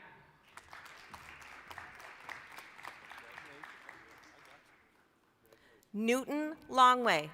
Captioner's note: applause